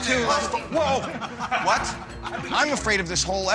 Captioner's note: others laugh